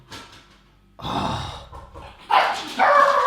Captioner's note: sighing; door knocking; dogs barking